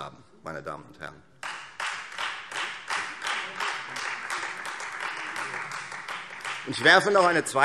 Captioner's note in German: Beifall Freie Demokraten